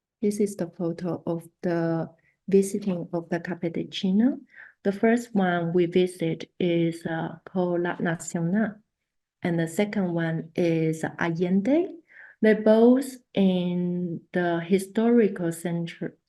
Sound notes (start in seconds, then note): 3.7 spanish; 8.0 spanish; 11.3 spanish